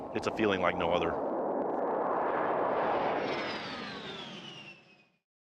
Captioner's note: plane roaring